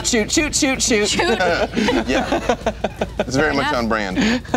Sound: laughing

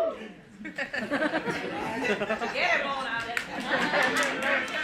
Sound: laugh

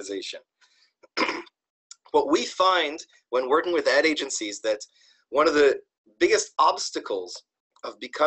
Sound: cough

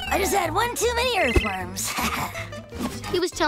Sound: chuckles

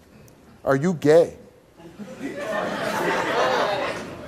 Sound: audience laughs

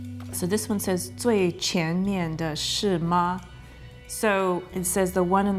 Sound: speaks in foreign language

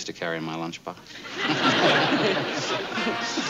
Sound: laughing

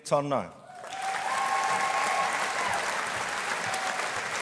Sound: audience applauding

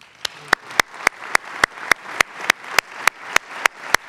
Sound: clapping

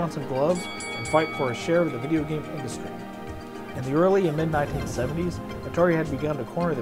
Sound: boxing bell ring sound

